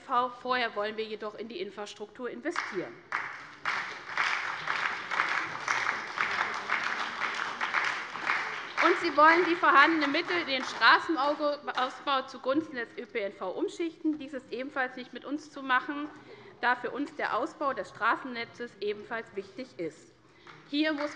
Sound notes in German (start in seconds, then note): 2.5 Beifall bei der SPD